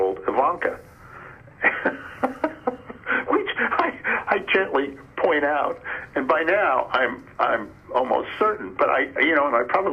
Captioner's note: laughs